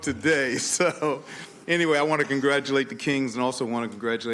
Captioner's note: laughter